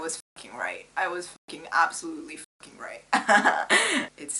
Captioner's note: laughs